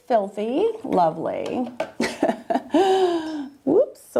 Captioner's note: laughs